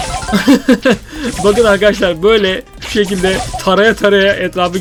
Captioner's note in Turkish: kahkaha